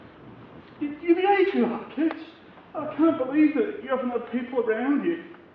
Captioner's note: man, sounding upset